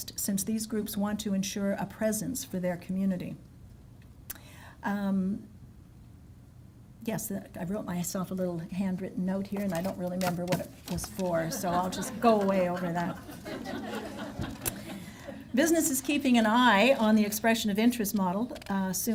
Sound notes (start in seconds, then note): 11.4 laughs